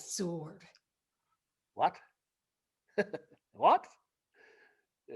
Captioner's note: chuckles